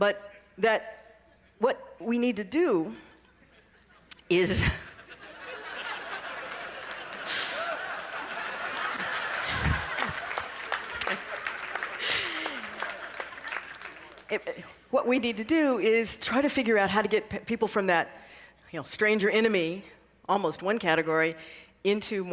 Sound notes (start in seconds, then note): 5.6 laughter; 5.9 applause